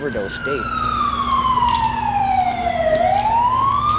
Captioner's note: siren